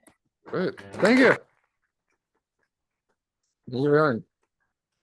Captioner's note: audience applauding